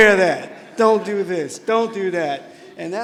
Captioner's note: laughter